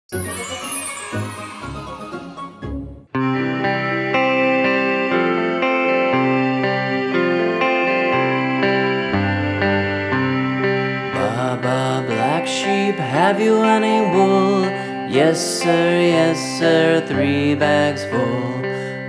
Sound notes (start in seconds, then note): 0.1 cheerful music; 0.1 children cheering; 3.4 upbeat music